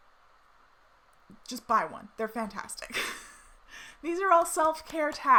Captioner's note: laughs